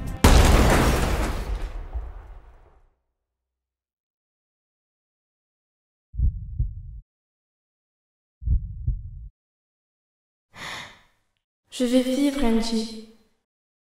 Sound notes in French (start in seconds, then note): 0.2 Crash !; 6.0 Battements coeur très lents; 10.5 Respiration profonde